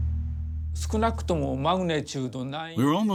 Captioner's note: speaking in foreign language